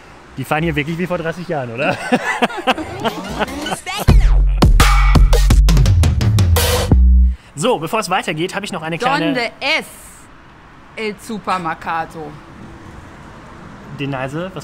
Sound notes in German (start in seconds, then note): 11.5 spricht falsches spanisch